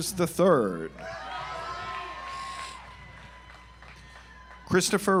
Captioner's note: audience applauds